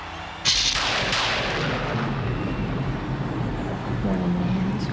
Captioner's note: thunder crackling